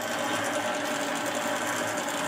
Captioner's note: loud machine rattling